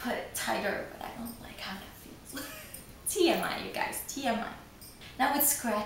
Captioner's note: laughs